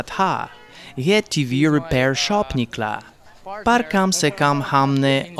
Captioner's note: Hindustani language